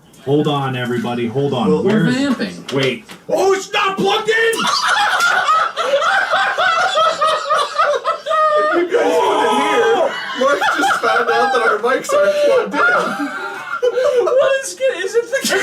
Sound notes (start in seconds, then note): 4.7 break out into laughter; 13.5 still laughing